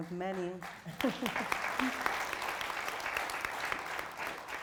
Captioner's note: audience applauding